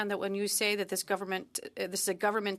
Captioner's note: speaking in French